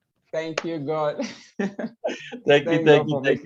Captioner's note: laughs